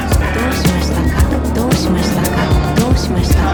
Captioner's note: speaker speaking foreign language; intense music